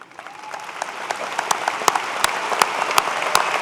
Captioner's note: applause